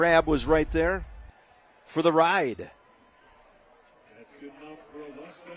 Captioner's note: applause